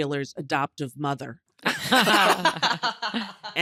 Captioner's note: everyone laughs